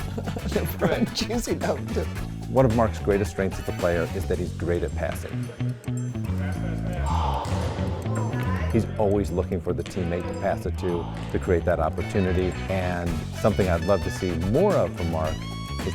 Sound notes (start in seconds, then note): 0.0 laughs; 5.5 funky music; 6.9 player grunts